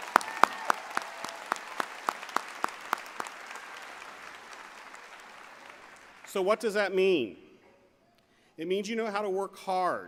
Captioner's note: applause